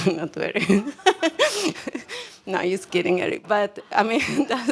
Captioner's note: laughs